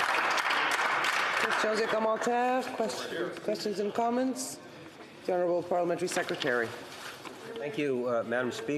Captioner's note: some applause